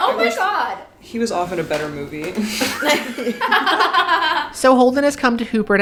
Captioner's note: everyone laughs